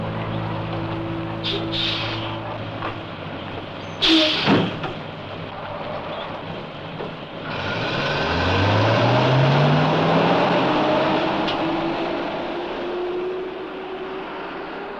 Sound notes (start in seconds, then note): 1.4 air brakes hissing; 7.5 bus engine rumbling